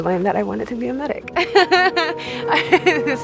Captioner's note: laughs